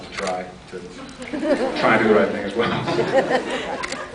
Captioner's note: laughs; scattered laughs